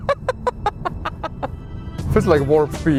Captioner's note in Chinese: 笑聲